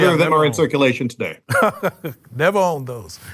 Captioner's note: laughs